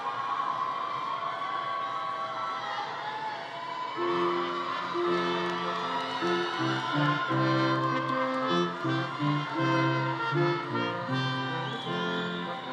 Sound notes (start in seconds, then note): 4.4 people chattering continues; 5.2 upbeat music